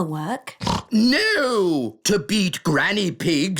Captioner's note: snorts